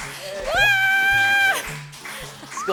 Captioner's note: phew, phew